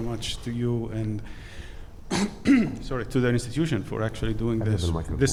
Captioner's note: clears throat